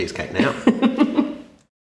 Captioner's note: laughing